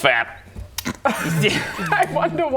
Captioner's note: repressed snort